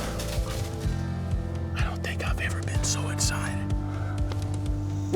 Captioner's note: whispering